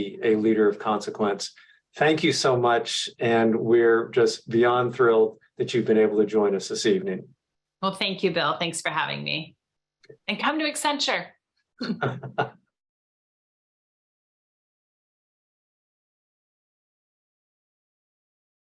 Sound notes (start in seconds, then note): 11.8 both chuckling